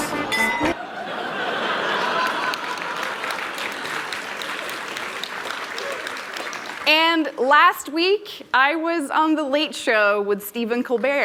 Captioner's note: laughter